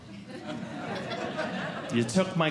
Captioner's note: audience Laughing